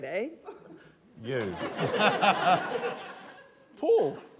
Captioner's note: laughter